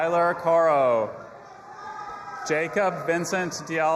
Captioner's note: audience applauding and cheering